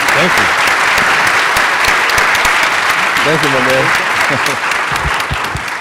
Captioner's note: applause